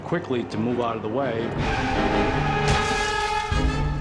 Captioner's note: screeching tires